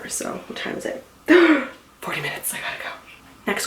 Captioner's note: gasps